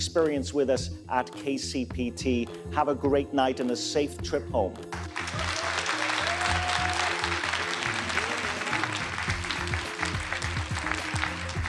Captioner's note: applause